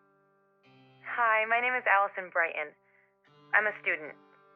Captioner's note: voiceover